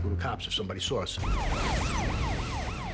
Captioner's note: siren